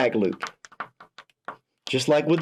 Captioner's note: pen tapping